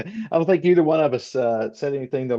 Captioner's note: laughs